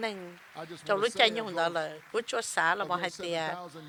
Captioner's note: applause